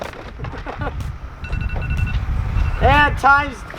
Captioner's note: laughs briefly; alarm rings